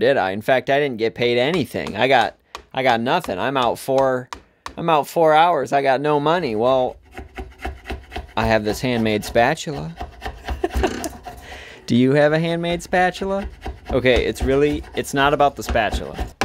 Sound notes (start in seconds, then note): 10.4 laughs